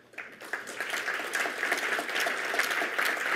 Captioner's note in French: Applaudissements